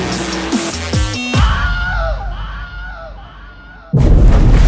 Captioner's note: really weird scream